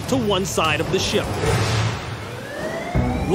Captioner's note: alarm wailing